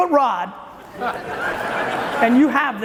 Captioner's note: audience laughing